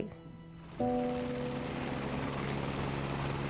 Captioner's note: rotating helicopter blades; somber piano music